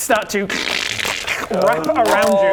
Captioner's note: crrrk